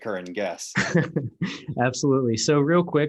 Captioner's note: laughs